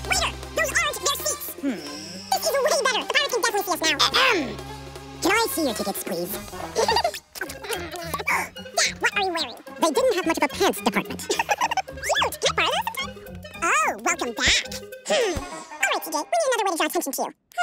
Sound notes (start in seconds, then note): 0.2 speaking fast forward; 8.4 speaking fast forward